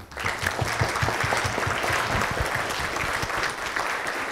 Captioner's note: audience clapping